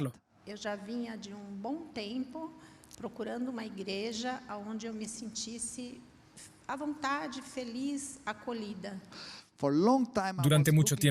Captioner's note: Hablando idioma extranjero